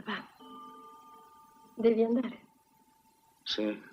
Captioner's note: clock chimes